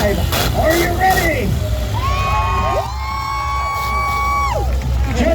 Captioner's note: crowd cheers